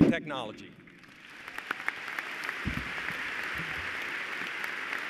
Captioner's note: applause